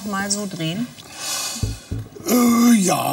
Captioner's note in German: Er seufzt